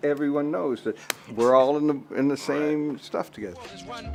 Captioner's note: claps